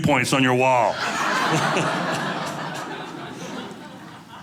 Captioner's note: audience laughing